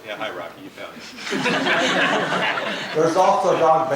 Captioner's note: laugh